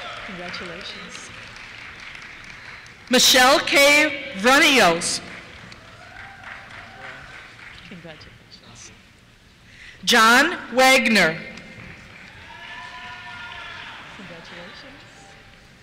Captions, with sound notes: Congratulations. Michelle K. Vrenios. (cheers) Congratulations. John Wagner. (cheers) Congratulations.